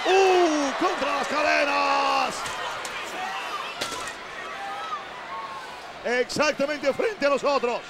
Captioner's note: applause